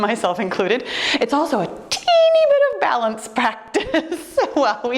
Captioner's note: laughs